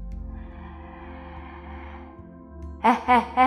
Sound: inhales

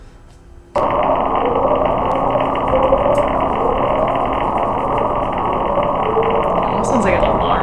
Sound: siren-like noise on top of deep, crackly noise

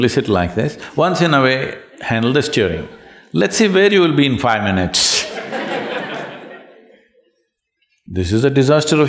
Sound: laughter

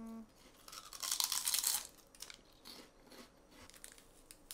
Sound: crunch crunch

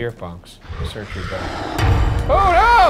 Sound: monster growling

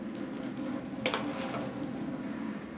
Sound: frying food sizzles quietly; pan clatters

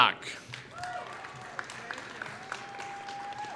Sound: applause

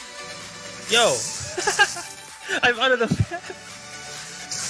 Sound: laughs

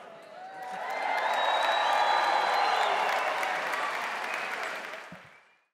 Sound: crowd cheering; crowd applauding

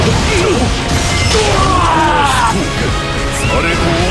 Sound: KO Scream

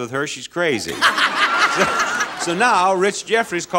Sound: laughing

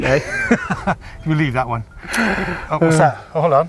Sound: laughing

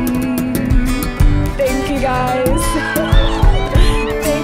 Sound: cheers

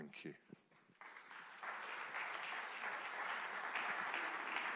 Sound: audience clapping

